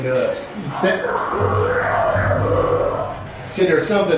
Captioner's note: equipment device mutters